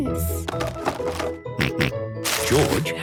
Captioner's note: rattling; snorting